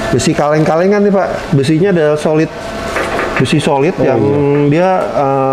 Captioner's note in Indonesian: mengetuk besi